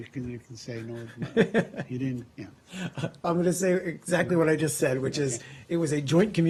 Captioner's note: laughter